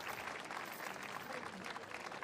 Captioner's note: cheering and applause